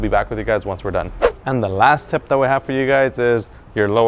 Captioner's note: whoosh